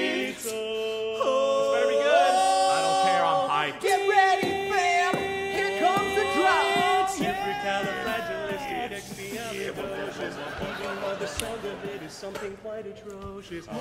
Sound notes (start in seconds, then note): 4.7 beatboxing; 7.0 dubstep